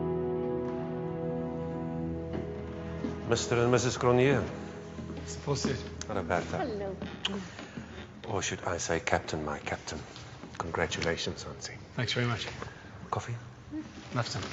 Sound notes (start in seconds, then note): 7.2 kiss smacking; 14.0 murmurs